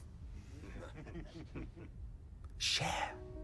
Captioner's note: men chuckling